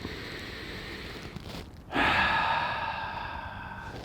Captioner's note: deep breathing